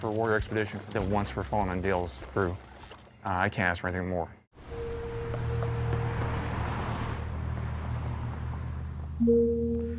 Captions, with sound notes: Warrior Expedition and then once for falling on Dale's crew. I can't ask for anything more. (ominous music) (cars driving by)